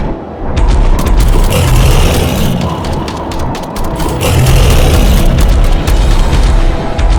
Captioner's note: steps thudding; beast growling; gun blasting